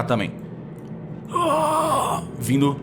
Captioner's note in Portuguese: Grunhidos